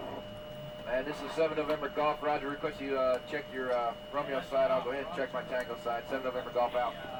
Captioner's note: radio Chatter